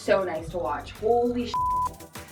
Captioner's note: beep